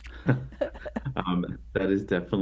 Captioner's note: laughing